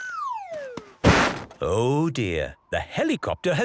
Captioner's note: bangs